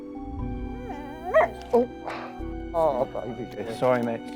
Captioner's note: dog whining